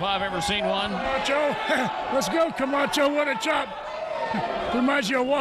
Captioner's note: chuckles